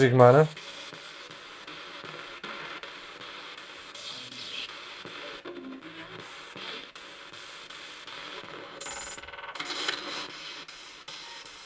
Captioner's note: sound of the Spirit Box in the background